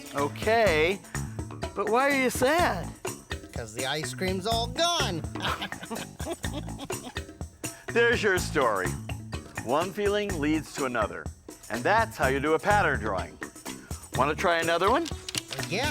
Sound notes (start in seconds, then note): 5.3 chuckles; 5.3 laughs